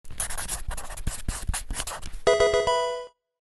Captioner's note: pencil scratching; Pokemon game sound